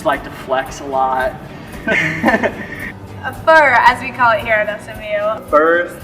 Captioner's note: laughter